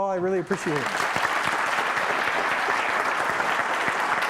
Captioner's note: applause